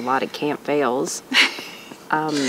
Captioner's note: laugh